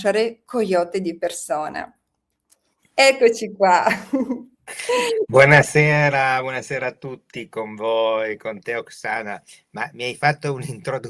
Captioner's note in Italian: risate